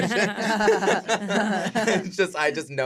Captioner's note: laughter